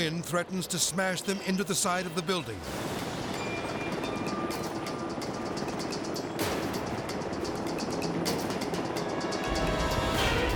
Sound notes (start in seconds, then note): 2.5 suspenseful music; 6.7 helicopter droning